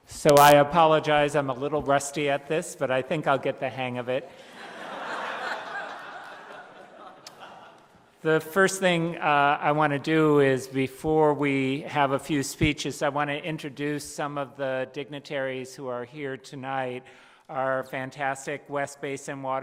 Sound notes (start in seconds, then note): 4.4 laughter